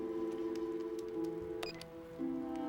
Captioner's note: phone beeps